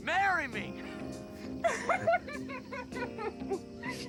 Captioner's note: laughter